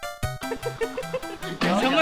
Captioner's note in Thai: ฮิ ฮิ ฮิ ฮิ